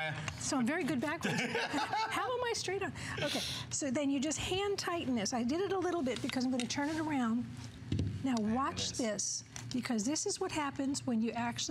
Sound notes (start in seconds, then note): 1.2 laughter